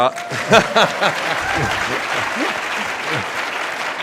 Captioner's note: audience applauds; laughter